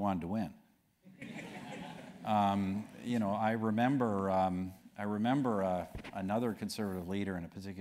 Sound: laugh

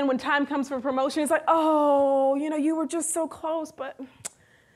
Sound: sigh

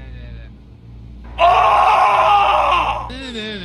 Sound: scream

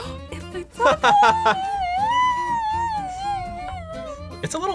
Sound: squeals

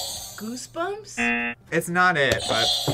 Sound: buzzer rings

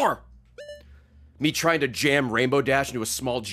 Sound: none

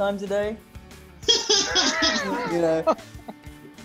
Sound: laughing

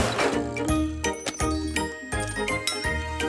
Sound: none

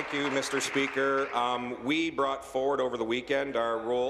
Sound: applause

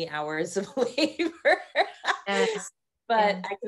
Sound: laughing

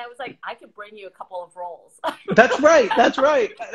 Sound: laughs

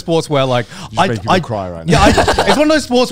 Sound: laughing

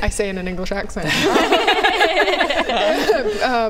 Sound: laughs

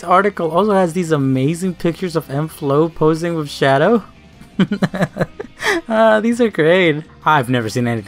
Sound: laugh

